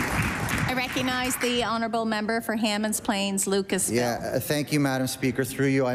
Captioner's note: applause